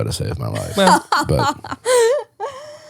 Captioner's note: laughing